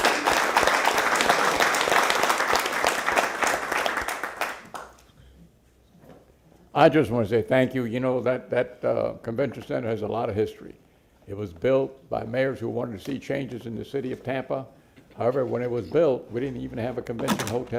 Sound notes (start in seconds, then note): 3.8 applause